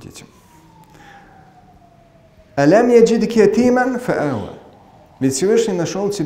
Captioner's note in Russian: Говорит на арабском